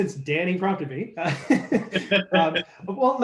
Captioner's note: panelists laugh